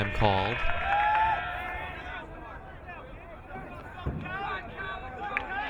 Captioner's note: crowd cheering